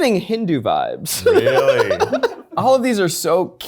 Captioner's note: laughing